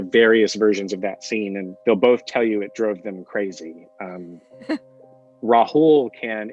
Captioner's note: giggles